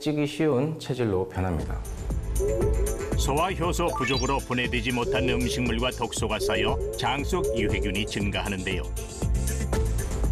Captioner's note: voiceover